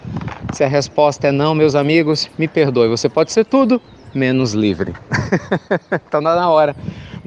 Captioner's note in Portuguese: Risos